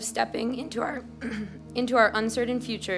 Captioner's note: clears throat